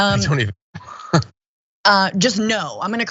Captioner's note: laugh